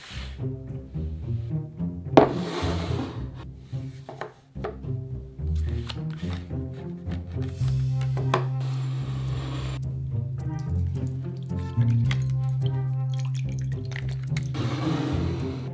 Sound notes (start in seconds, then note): 10.4 liquid pouring